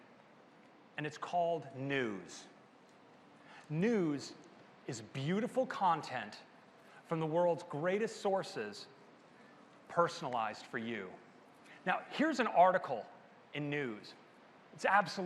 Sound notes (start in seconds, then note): none